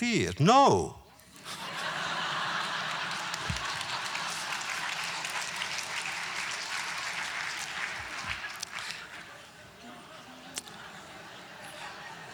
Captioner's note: audience laughter